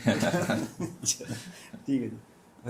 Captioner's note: laughter